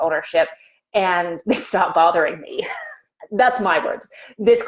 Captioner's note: chuckles